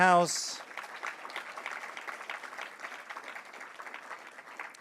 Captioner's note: audience applauds